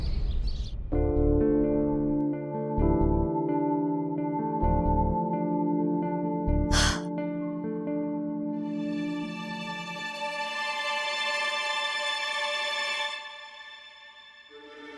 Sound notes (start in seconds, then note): 6.7 sighs